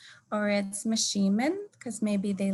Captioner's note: speaking in native language